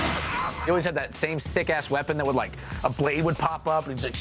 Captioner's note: slicing